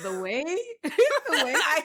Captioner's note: laughs